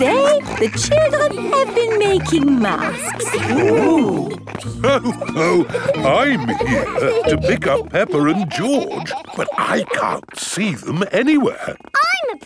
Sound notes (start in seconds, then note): 5.1 laughs